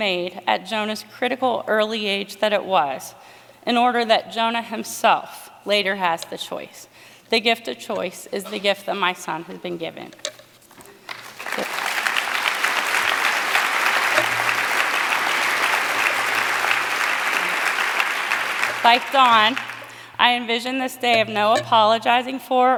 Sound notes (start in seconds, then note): 11.7 appaluse